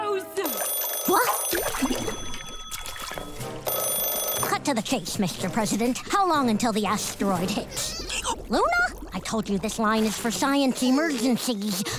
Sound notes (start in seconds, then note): 0.4 phone ringing; 3.3 ringing; 7.7 hiccuping